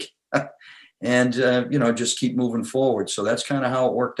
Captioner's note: laughs